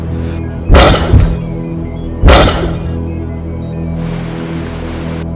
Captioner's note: electronic zapping; digital static